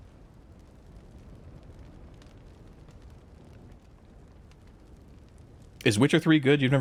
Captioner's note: silence